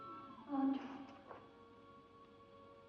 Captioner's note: ominous music; creaking sound